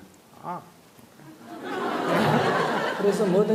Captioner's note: audience Laughter